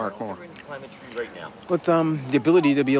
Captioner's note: man and child talks in background